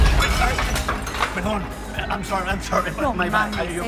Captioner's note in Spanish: Estruendo